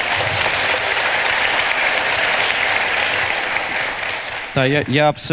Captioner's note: the audience cheers